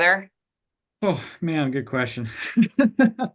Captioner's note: laughs